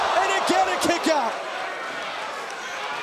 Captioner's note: crowd cheering